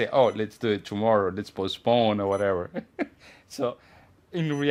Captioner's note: laughs